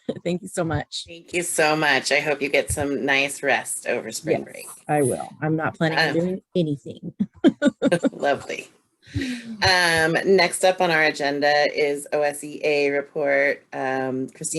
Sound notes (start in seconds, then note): 7.2 laughing